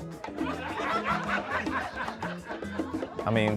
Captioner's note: laughter